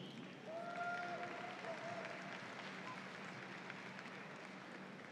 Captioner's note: audience applauds